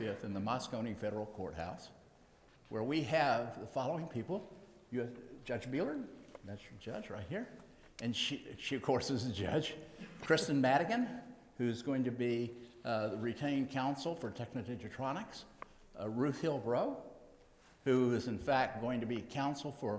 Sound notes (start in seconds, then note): none